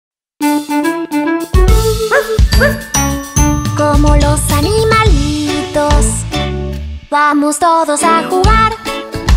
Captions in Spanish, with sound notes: (Música alegre) (Ladrido) Guau guau! Como los animalitos Vamos todos a jugar